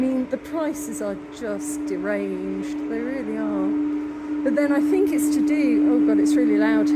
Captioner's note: loud humming